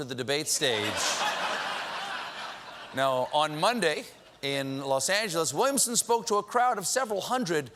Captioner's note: laughter